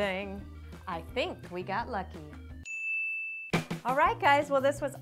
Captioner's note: ding